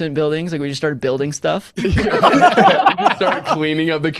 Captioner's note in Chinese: 笑声